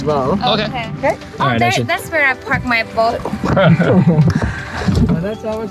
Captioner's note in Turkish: gülüyor